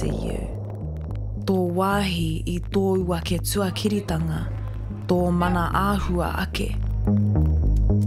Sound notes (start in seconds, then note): 4.0 slow distorted speaking